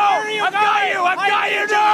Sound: more yelling

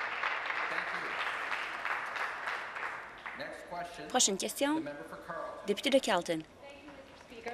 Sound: applause

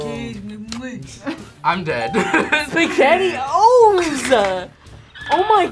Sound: laughs

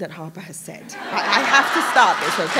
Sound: laughter

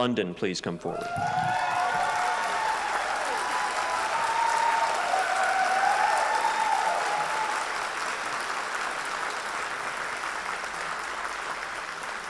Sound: applause

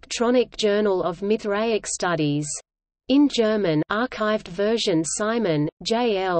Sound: in German

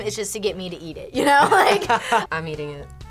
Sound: both laugh

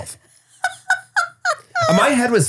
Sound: laughs

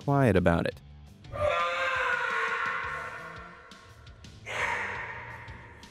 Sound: shouting

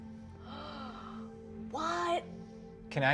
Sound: gasping

